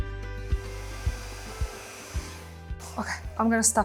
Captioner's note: blower hissing